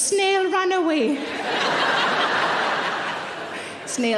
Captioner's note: audience laughing